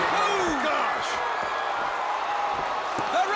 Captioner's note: crowd cheering